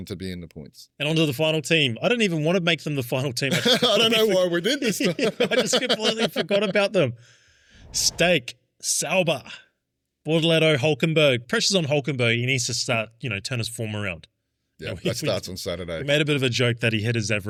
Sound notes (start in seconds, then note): 3.5 laughing